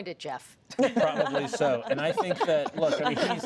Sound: laughter

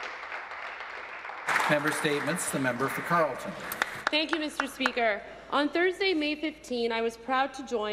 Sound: some Applause

